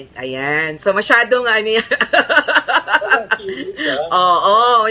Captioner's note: laughter